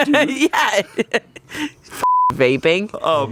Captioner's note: laughs; beep